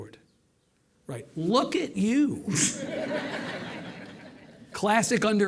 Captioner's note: audience laughing